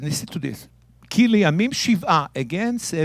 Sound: speaking in Hebrew

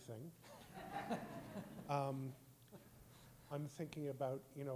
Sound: all laughing

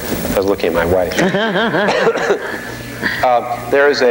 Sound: laughing

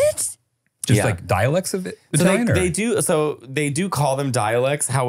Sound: foreign language

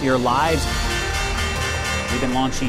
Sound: bells chiming

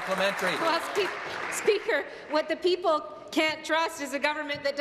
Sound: applause

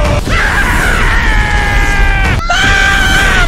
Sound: soldier Scream

